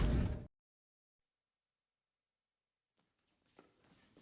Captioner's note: silence